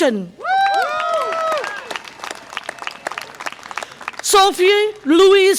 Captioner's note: audience applause and cheer